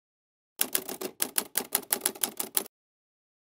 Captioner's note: typing sounds